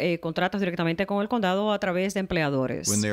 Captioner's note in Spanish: Hablando ingl\s